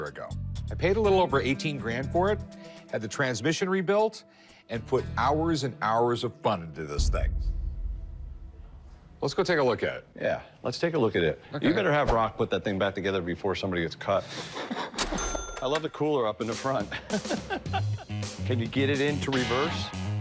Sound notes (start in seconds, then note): 15.0 cash register chiming